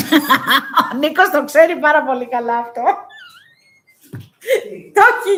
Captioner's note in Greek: γέλια